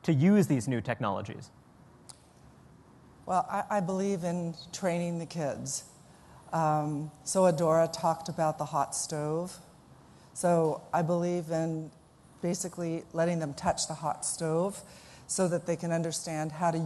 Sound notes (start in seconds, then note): none